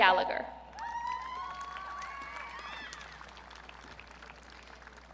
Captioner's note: audience cheering